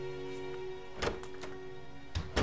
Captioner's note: the door closing sound; sound of door opening